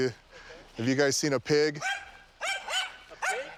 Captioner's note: dog barking